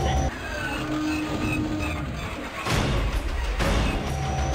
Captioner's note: spaceship falters